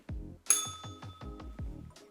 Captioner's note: bell rings